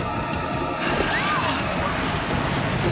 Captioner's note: screams